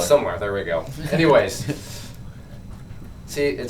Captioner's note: laughs